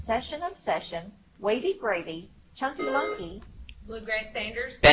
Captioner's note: buzzer chimes